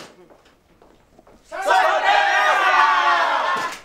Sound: everyone Yelling Surprise!

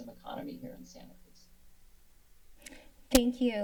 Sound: silence

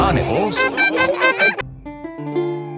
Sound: laughing

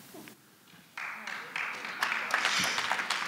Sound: applause

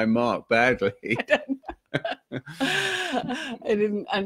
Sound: laughing

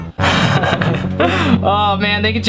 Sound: laughing

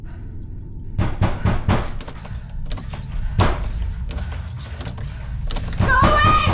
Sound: banging on door, doorknob clicking

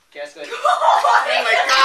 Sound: laughter

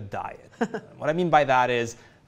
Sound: laughs

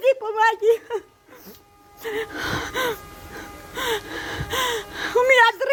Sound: breathes heavily

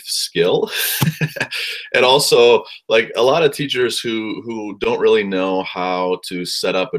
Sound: laugh

